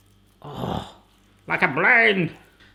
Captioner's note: sighs